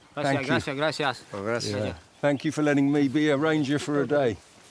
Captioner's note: ranger speaks in foreign language